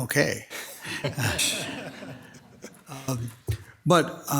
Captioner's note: people laughing